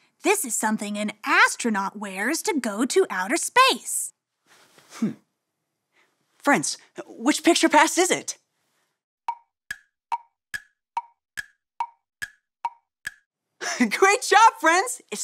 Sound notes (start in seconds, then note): 9.3 clock ticking